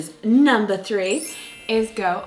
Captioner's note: magical chiming